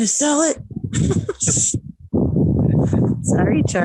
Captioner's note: homeowner laughs